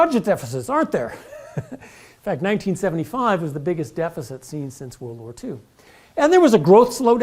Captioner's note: laugh